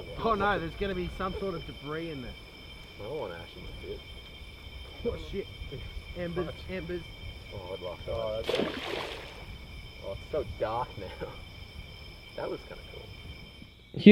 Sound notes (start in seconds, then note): 5.3 crickets chirping; 5.3 people chatter; 8.4 water splashes; 11.0 chuckles